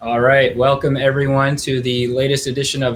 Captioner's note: none